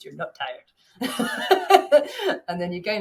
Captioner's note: chuckles